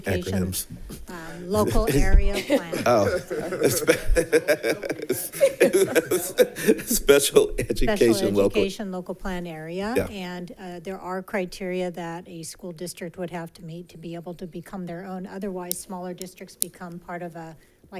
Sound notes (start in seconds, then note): 6.1 laughs